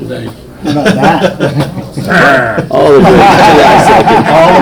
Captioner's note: everyone laughs